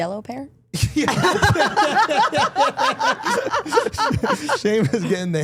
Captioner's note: everyone laughing